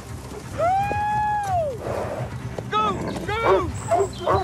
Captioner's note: yelling